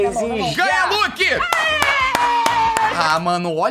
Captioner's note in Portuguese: batendo palmas